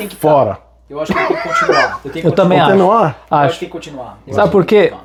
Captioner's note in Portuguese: risadas